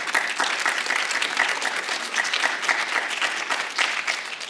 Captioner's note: audience applauding